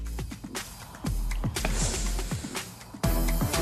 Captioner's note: sniffles